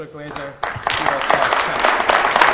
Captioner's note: applause